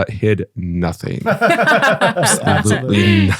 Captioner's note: laughing